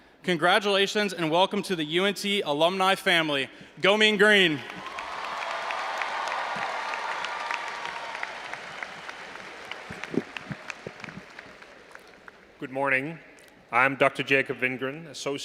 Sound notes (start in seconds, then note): 4.5 all applauding and cheering